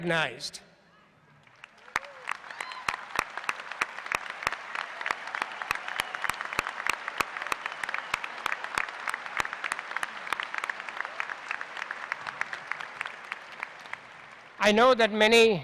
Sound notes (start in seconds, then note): 1.3 applause